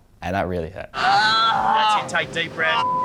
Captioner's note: grumbles; beep